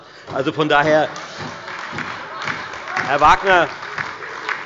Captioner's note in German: Heiterkeit und Beifall bei der FDP, der SPD und der LINKEN